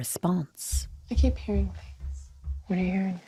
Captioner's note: something thuds